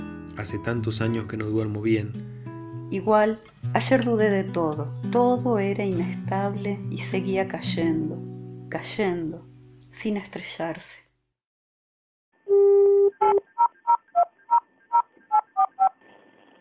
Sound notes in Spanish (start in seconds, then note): 12.5 Teléfono marcando